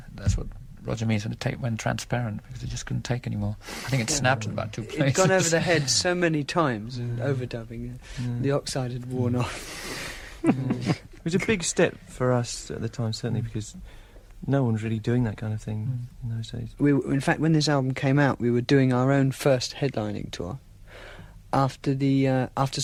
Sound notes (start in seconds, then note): 10.4 laughter